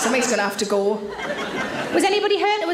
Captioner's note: audience laughs